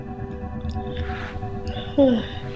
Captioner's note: sighing